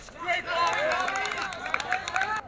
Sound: audience applauses

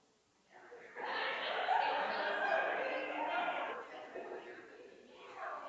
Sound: people laughing and chattering

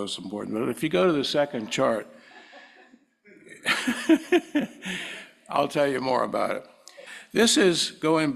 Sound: laugh

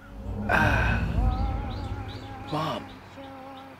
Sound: Marcus sighs

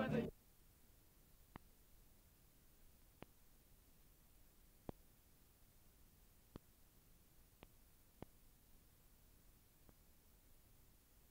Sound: mariachi music; no audio

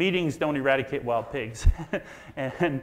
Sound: laughs

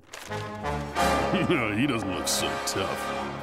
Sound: chuckles

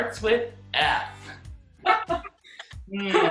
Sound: both laugh

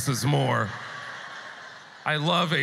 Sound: audience laughter

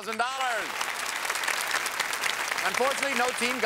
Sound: applause

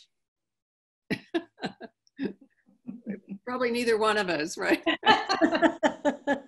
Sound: laughing

